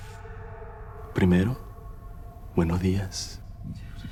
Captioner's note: venezuelan accent